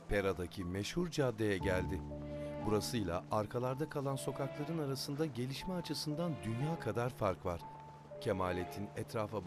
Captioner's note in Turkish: Ayak sesleri; Müzik - Gerilim